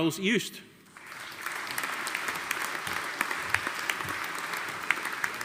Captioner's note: audience applauding